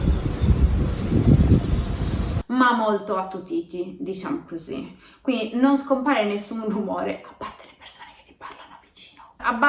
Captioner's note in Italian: a bassa voce